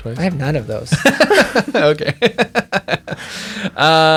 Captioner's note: both laughing